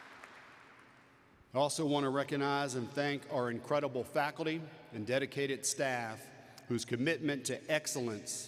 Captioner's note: applause